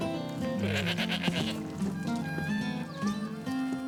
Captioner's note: goat bleating